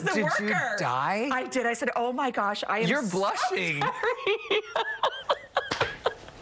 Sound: laughter

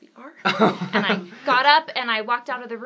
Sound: laughs

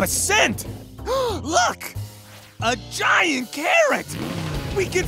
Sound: sniffing; gasps

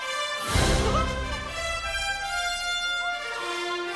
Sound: Mickey giggles

